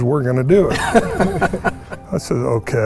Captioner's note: participants laughing